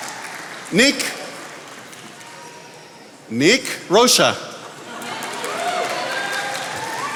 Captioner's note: attendees applauding